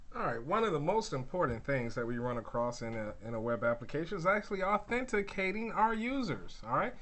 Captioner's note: none